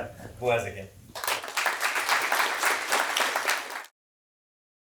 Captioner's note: applause